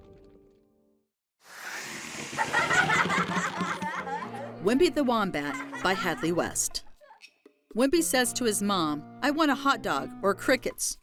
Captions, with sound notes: The end. (logo whooshing) (children laughing) "Wimpy the Wombat," by Hadley West: